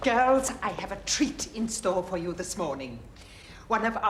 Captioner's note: none